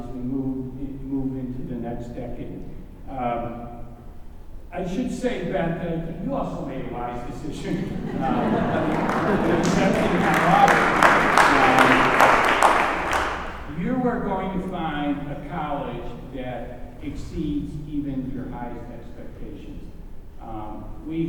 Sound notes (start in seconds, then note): 7.6 laughter and applause